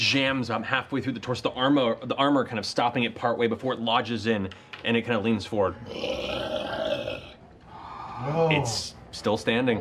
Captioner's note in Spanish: gruñido